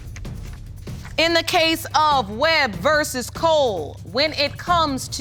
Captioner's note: none